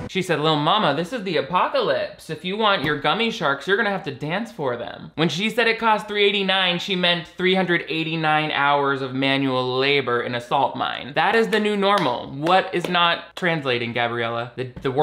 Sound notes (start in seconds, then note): none